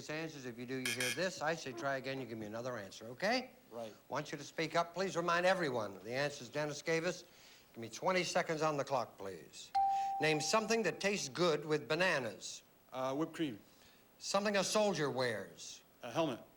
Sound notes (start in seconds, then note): 2.2 buzz buzz